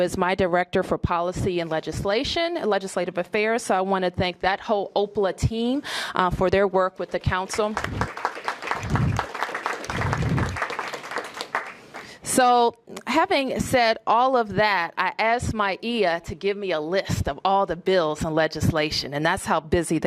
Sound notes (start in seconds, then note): 9.0 applause